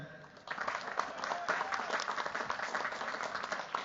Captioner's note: cheers, applause